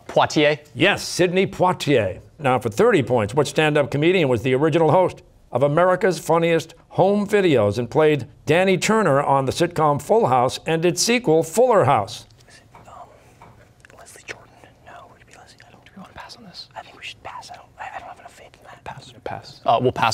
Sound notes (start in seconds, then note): 12.6 whispering; 19.0 whispering